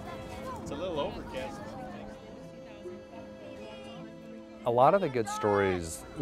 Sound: background talking of crowd

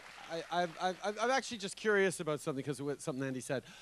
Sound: cheers

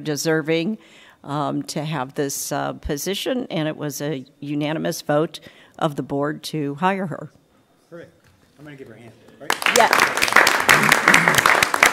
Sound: applause

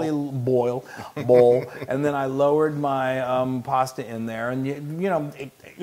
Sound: laugh

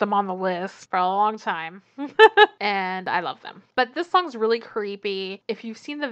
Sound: laughs

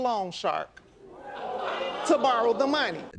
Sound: crowd oohs

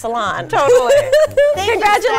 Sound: laughs

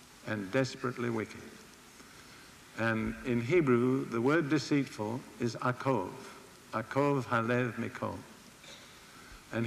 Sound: in Hebrew

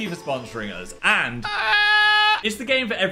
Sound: screams

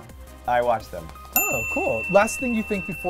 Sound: dinging

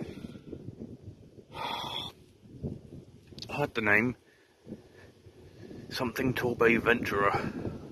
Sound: sighing

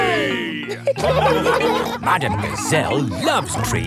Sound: laughing

